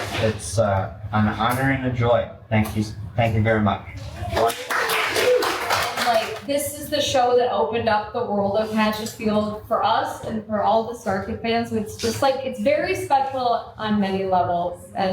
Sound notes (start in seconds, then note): 4.2 cast and crew applaud